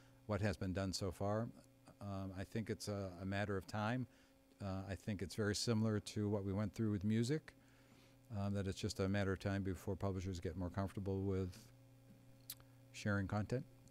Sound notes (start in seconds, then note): none